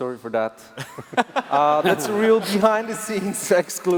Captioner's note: laughs